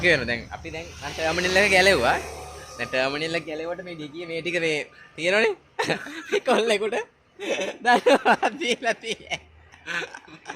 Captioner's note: laughing loudly